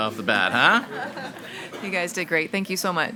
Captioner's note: group laughs